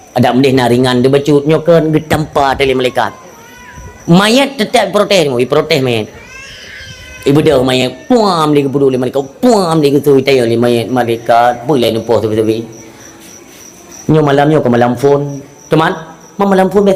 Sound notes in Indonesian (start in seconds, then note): 6.0 menangis